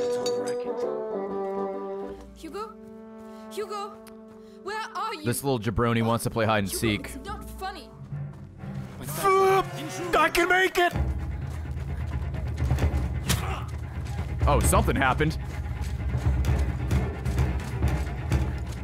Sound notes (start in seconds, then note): 13.3 enemy dying in background